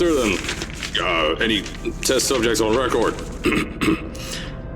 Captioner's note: ahem